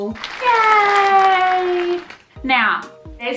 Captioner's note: clapping noises